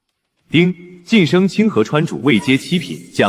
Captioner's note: notification